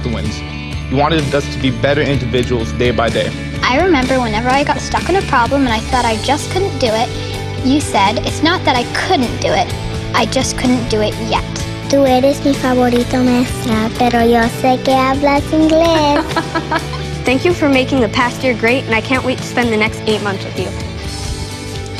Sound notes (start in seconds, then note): 12.9 speaking Spanish